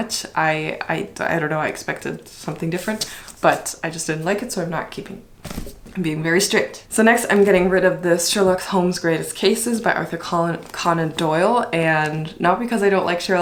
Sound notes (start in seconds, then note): 5.3 book thump